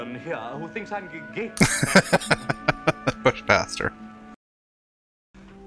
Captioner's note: laughing